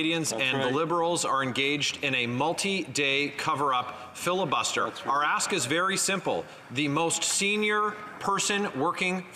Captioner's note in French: voix de l'interprète